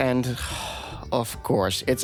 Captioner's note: sigh